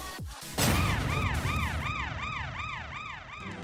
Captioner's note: siren rings